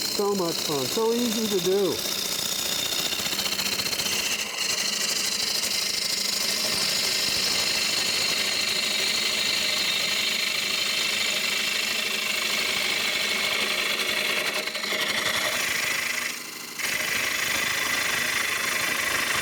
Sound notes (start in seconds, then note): 3.4 chisel scraping the wood